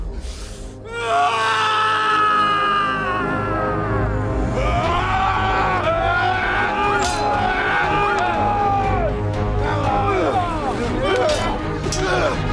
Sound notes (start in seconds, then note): 1.1 shouting; 3.7 dramatic music; 4.9 both shouting; 6.9 swords clanging; 10.1 dramatic music